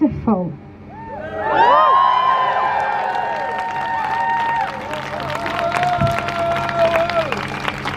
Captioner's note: crowd cheers